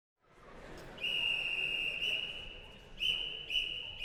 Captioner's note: conductor whistling